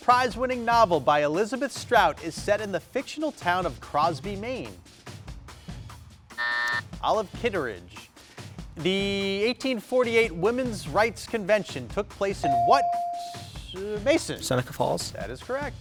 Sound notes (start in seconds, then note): 6.4 buzzer buzzing; 12.5 buzzer dinging